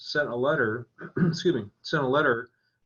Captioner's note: clears throat